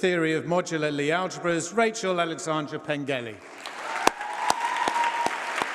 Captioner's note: applause